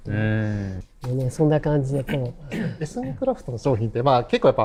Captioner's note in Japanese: 笑い